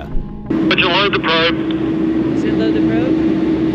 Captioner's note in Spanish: Man Over Radio